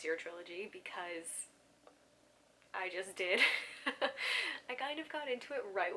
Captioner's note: laughs